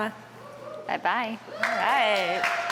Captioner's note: applause